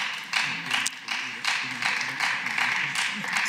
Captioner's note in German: Beifall